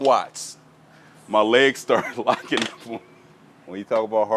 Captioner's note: laughing